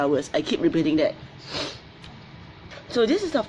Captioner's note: sniffles